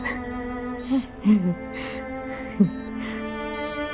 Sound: chuckles

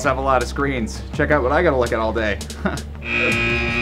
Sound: buzz

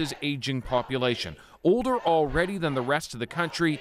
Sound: chanting

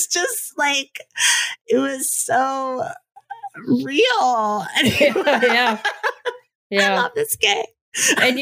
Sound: laughs

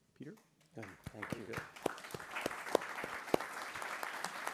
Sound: participants applaud

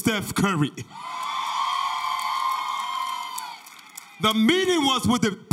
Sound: audience cheers

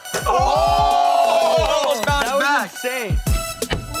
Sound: electronic music; yelling and clapping; electronic music

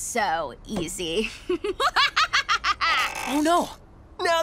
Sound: laughs maniacally

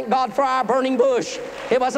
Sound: applause

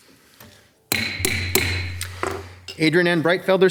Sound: mayor slams gavel

